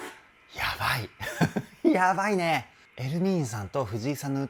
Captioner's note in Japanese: 笑い